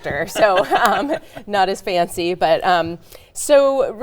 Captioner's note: laughing